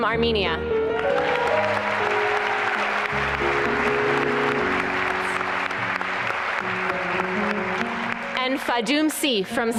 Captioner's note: applause and cheering